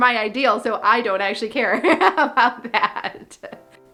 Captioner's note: laughs